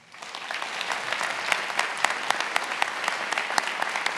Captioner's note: attendees applauding